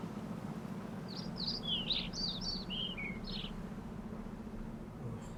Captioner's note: birds chirping